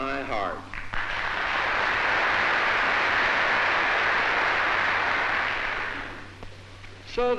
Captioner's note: applause